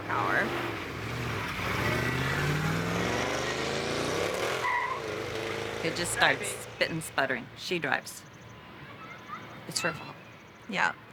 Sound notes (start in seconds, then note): 4.5 engine blaring; 5.1 tires screeching